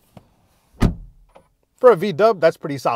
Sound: door bangs

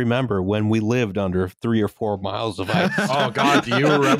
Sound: laughter

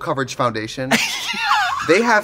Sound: laughing

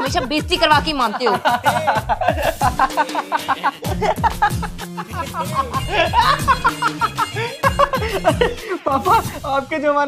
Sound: laughing

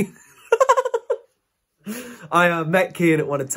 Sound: laughing

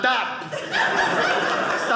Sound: audience laughing

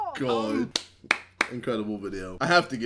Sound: celebration clap

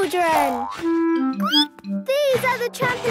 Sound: squeaks

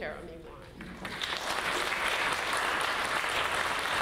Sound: audience claps

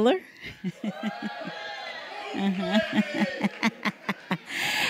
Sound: applause

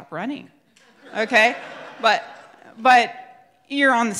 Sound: crowd laughs

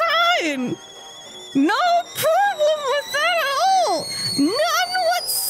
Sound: kettle whistle

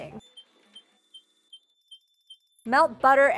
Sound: electronic beeping

